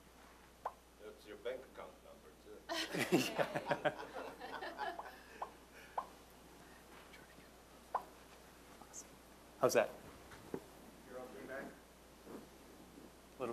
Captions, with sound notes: >> (East European accent) Give us your bank account number, too. (audience laughing) >> How's that?